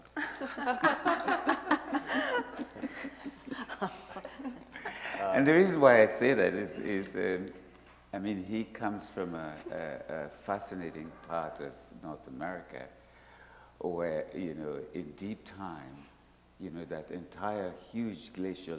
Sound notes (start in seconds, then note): 3.6 laughter